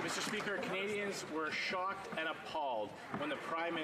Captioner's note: some Applause